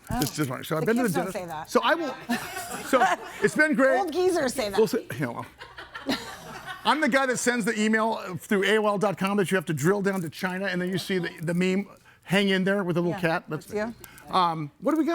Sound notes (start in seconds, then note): 2.0 laughs; 2.2 everybody laughing; 4.8 murmurs; 5.3 audience laughing